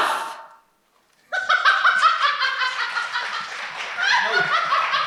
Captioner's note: Ronnie laughing; Ronnie continues laughing